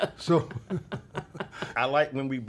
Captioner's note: both laugh